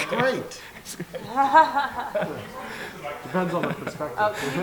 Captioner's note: laughing